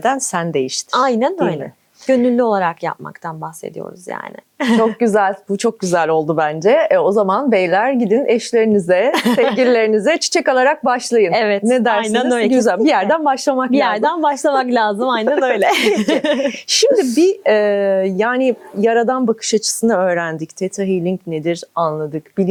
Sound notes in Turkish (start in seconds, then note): 9.1 kahkaha; 15.2 kahkaha